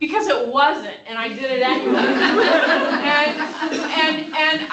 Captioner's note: laughter